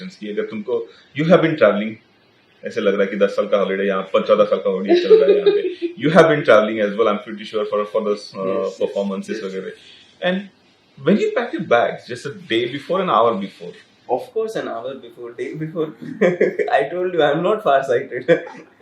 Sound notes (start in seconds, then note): 4.9 Laughter